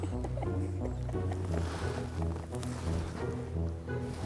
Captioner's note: all laughing